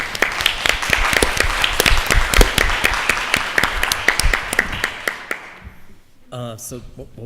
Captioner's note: applause